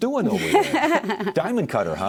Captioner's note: laughing